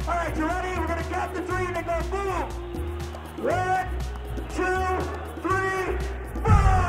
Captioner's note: soundbite of archived recording